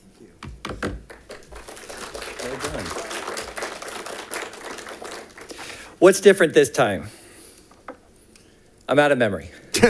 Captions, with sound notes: (congregation claps) - Well done. - What's different this time? I'm outta memory.